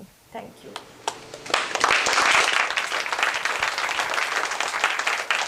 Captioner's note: applause